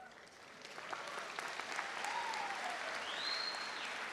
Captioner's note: audience applauds